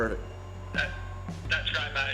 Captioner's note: on phone